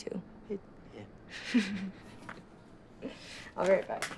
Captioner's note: chuckling